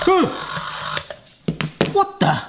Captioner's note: ice cream maker switch clicks